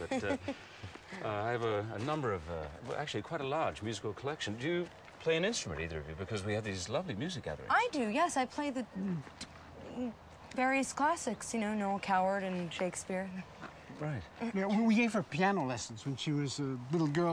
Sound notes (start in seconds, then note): 9.0 grunts